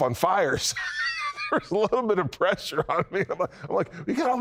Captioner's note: laughs